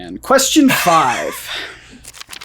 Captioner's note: laughs